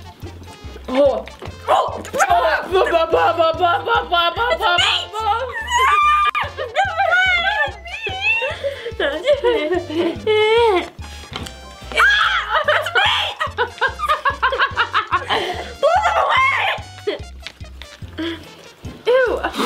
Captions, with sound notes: (screaming) (screaming) - Blow them away! - Ew!